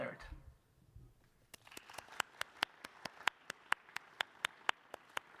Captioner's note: applause